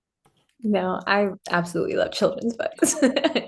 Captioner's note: laughs